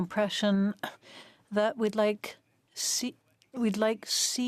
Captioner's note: speaking French